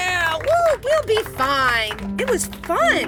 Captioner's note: contestants applaud; lifering cheers